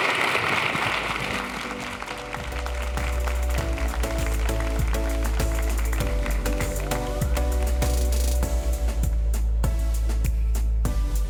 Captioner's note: applause